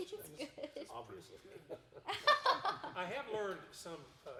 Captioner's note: laughing